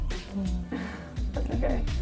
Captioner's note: person 1 laughing